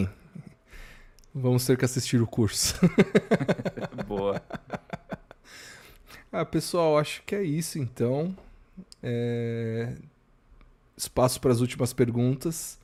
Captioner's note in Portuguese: risadas